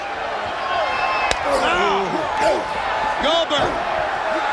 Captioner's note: crowd cheering; wrestlers grunting; hand slaps